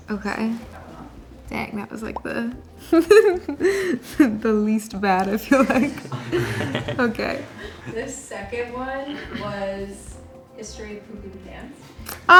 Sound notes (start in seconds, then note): 5.2 all laughing